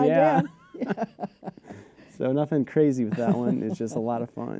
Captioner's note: laughter